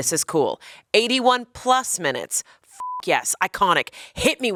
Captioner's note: beep